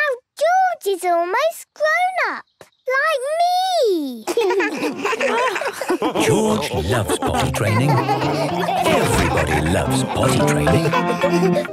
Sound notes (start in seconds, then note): 4.7 laughs